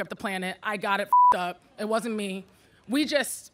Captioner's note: beep